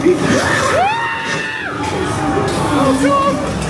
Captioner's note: scareactor laughs wickedly; screaming